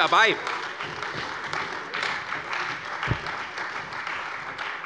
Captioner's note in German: Beifall bei der CDU und dem BÜNDNIS 90/DIE GRÜNEN